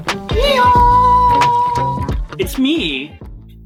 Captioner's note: donkey noise